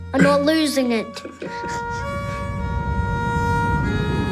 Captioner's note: laughing